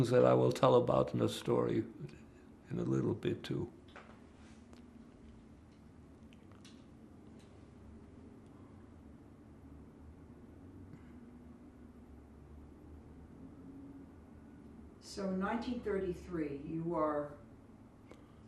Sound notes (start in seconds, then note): 4.8 pauses 10 seconds